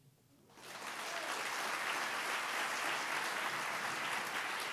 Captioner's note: audience applauding